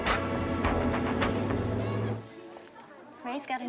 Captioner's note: none